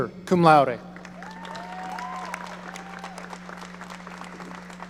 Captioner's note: audience applauding